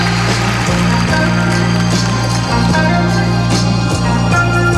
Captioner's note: crowd cheering